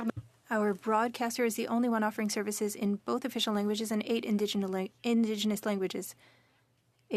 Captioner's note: speaking French